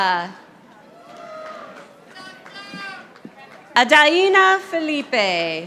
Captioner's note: audience applauding